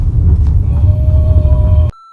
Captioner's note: beep